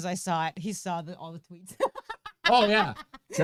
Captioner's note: laughing